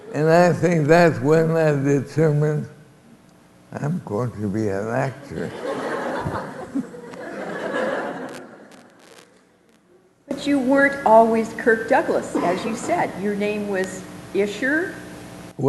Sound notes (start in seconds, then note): 5.2 laughter